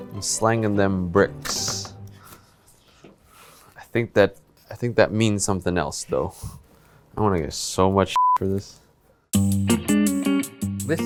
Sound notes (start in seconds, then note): 8.2 beep; 9.3 upbeat music